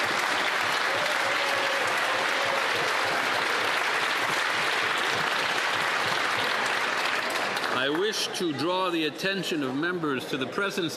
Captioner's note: applause